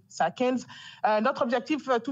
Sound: speaking in French

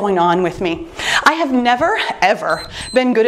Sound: timer beeps

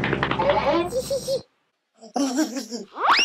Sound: laughing

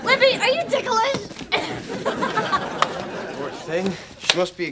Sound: punchy laughter

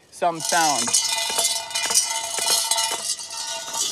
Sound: metal clanging

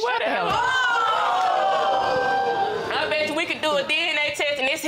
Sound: audience exclaiming

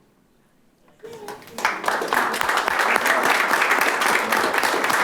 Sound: audience applauding

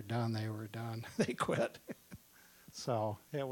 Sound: laughing

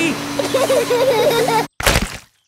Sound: laughter

